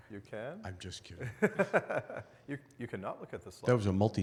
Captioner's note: laughs